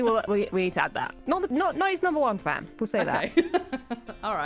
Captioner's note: laughs